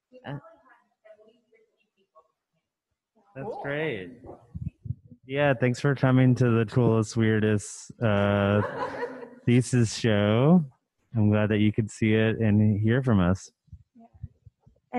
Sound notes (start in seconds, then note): 8.0 laughing